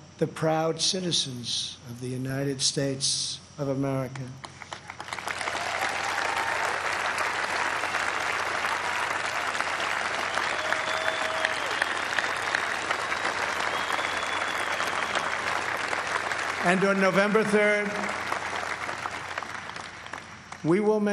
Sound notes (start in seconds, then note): 7.0 applause